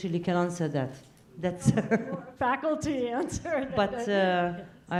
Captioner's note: laugh